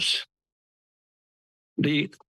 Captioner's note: pause